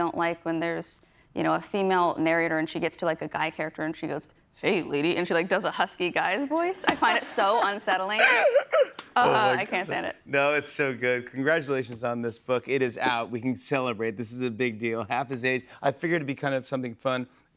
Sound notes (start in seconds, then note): 4.1 deep voice; 5.0 normal voice